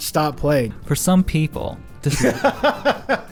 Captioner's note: laughs